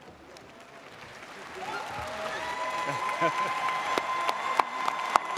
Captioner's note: audience applauding